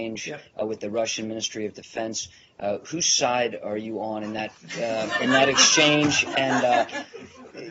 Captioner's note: laughter